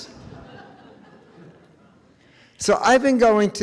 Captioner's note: audience chuckles